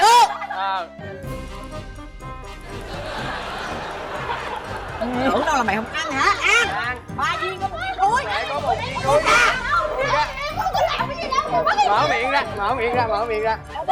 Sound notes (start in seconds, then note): 0.0 laughing; 7.8 girls yelling